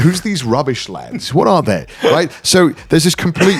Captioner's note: laughing